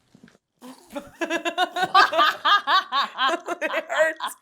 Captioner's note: Becca and Zoey laugh